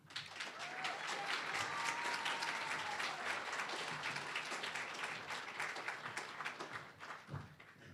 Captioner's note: applause